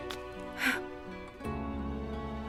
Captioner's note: Faith resopla